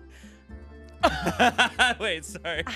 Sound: laughing

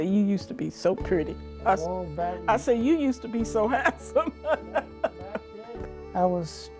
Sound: laughs

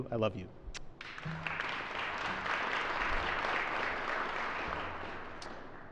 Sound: applause

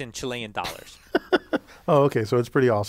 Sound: laugh

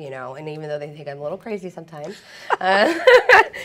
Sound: laughter

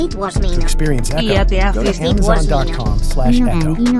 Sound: Spanish

